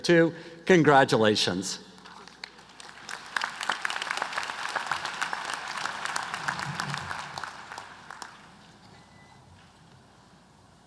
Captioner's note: applause